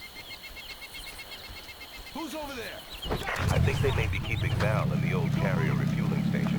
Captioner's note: birds chirping